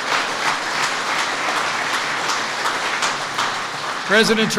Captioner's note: applause